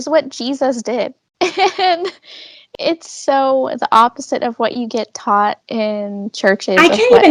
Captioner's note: laughs